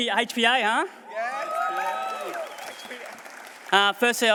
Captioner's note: cheering